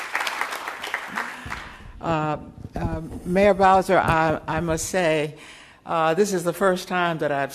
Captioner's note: applause